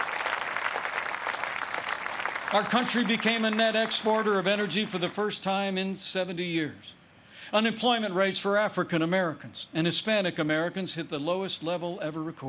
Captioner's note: applause